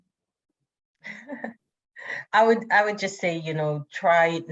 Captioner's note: laughs